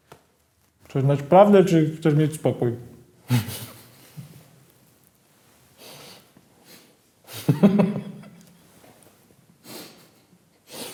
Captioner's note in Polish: śmiech